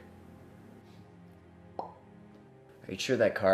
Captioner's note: mimics popping noise